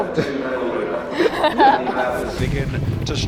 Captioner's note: laughing